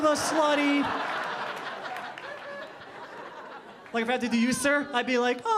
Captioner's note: audience laughing